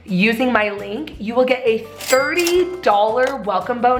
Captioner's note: cash register chimes